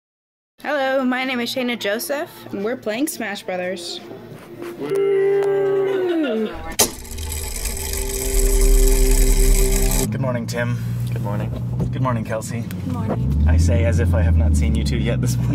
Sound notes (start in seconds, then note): 4.8 everyone cheers lazily; 6.5 mechanism whirring